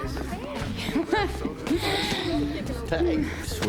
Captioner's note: laughing